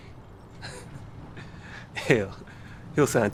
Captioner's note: chuckles